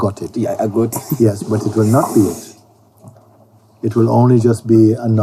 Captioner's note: laughs